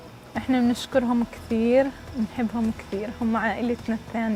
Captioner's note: speaking Arabic